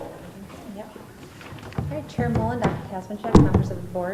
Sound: speaker speaks off mic

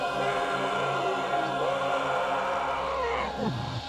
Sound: shrieking

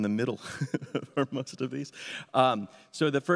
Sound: laughs

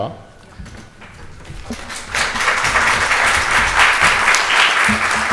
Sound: audience applauds

